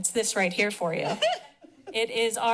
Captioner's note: chuckles